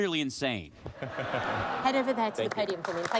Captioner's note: laughter